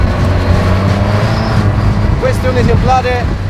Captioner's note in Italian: sibilio motore Spitfire